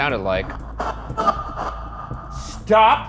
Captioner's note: spirit box crackles